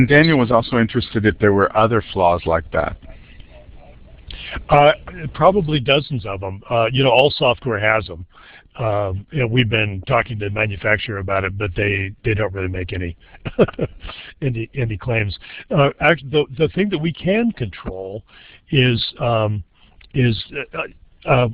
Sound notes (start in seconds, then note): 13.2 chuckles